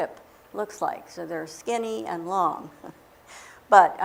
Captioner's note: chuckle